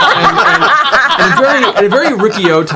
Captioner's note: laughter